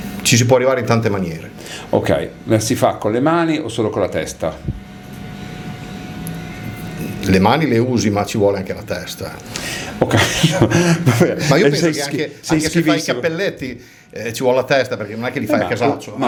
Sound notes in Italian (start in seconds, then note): 10.0 risate